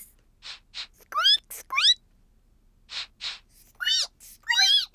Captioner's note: sniffs and squeaks; both sniff and squeak